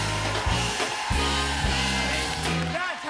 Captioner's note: cheers and applause